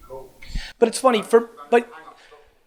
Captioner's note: murmurs